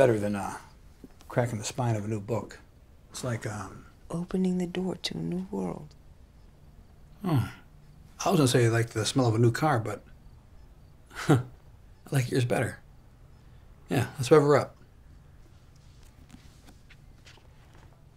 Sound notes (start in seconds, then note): 11.1 chuckles